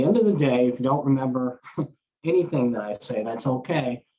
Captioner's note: chuckles